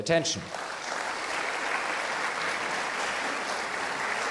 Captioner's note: audience applauding